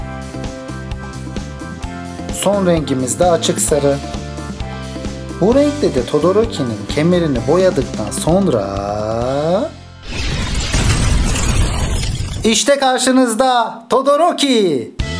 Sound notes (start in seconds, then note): 10.1 ❄ Ice Sound ❄